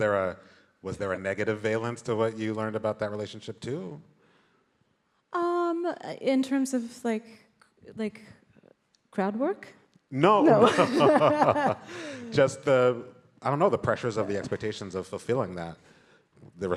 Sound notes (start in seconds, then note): 10.4 both laughing